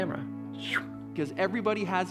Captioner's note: whoosh